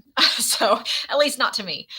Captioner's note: laughs